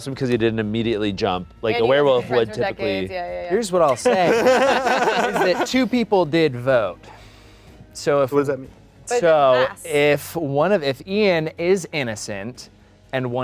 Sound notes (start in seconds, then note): 3.9 everyone laughing